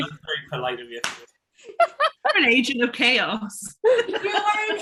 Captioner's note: laughing